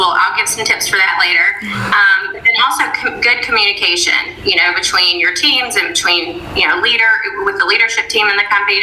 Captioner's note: chuckle